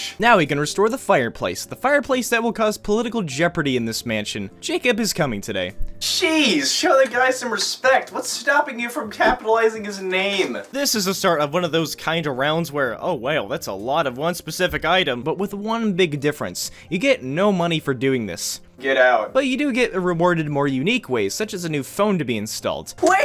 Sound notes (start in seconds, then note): none